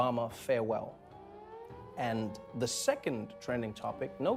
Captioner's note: blaring sirens